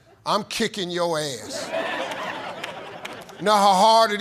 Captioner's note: audience laughs